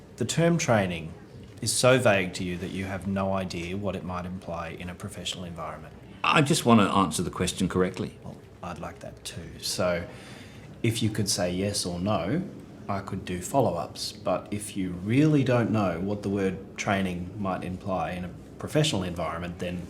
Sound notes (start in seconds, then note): none